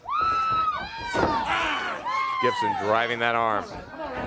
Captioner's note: crowd cheering